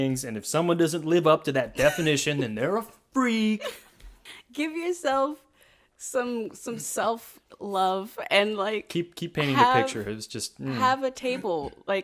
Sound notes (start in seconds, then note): 3.5 laughs